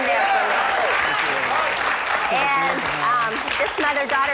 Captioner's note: audience applauds